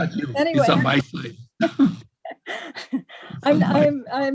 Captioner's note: laughs